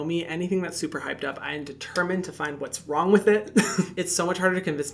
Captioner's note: chuckles